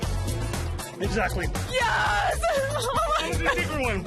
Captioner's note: laughs